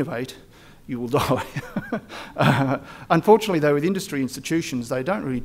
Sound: laughs

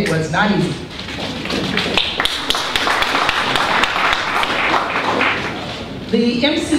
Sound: applause

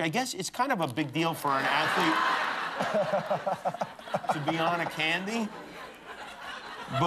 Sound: laughter

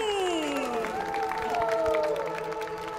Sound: applause

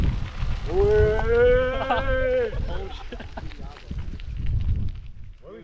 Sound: laughs

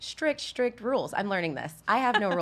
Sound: laughs

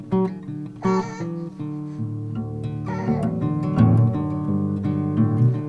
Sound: baby cooing

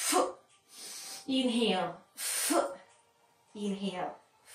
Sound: exhaling

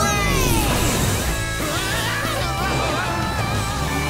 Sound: screaming

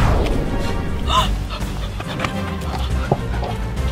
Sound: gasps

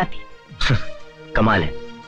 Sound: sighs

